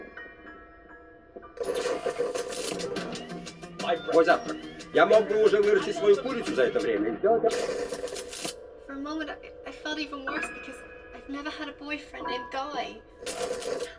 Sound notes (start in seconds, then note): 4.2 man speaking foreign language